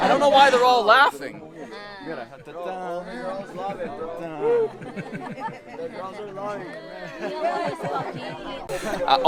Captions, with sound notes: I don't know why they're all laughing. (speaking in foreign language)